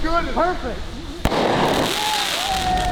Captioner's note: firework explodes; cheering